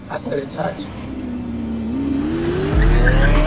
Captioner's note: engines revving